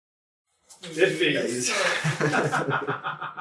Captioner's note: laughter